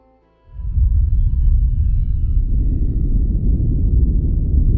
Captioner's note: ominous music continues; atomic bomb rumbling